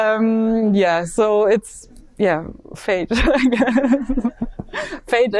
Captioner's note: laughs